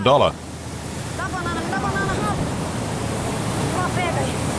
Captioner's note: Portuguese spoken audio